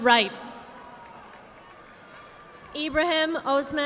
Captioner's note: audience applauding